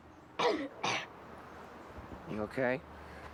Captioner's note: coughs